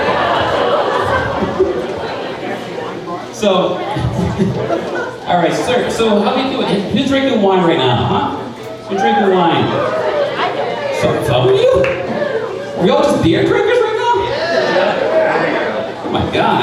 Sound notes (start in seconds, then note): 0.0 crowd laughing; 8.9 cheering; 14.2 cheering